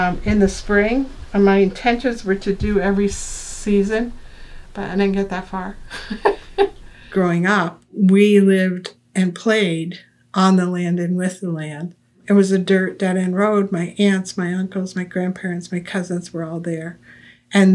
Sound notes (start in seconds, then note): 5.8 laughs